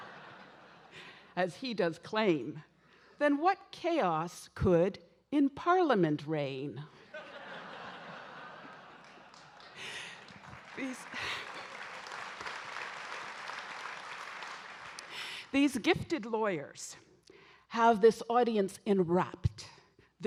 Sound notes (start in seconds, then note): 7.0 audience laughing; 8.5 audience applauding